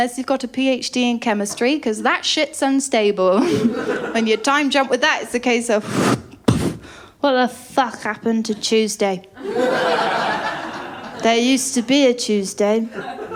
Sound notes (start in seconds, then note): 3.4 laughter; 5.8 woosh... thud; 9.4 laughter